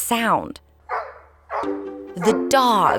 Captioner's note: barking